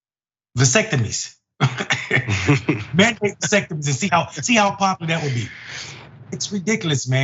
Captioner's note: laugh